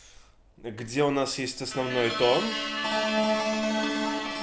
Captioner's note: drone